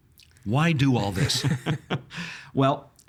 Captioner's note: chuckling